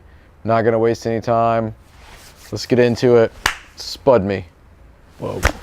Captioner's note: claps